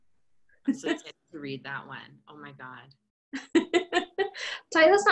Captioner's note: laughter